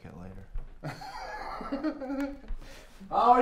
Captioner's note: laughing